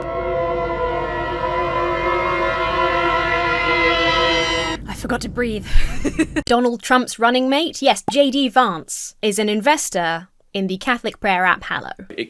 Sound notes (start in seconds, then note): 5.6 laughs